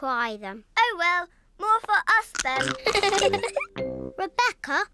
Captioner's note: giggles